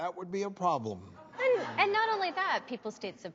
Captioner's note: audience laughing